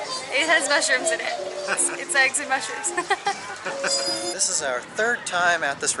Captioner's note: laughter